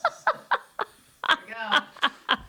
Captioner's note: laughing